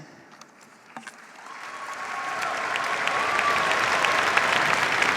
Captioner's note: cheers, applause